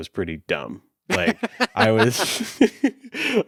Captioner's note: Ernie laughs